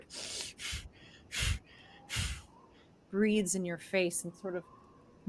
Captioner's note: exhales sharply